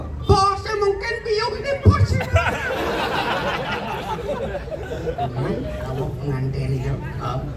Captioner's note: laughs